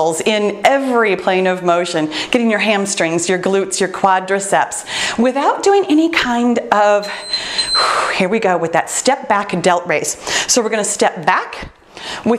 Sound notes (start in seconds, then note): 7.0 timer beeps